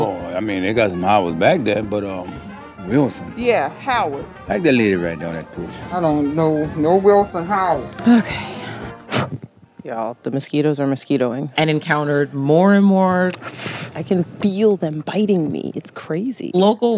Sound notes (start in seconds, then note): 8.0 sighs; 13.3 blows